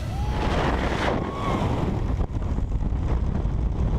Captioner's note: wind blowing